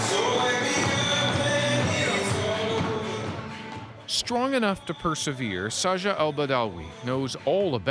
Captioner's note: applause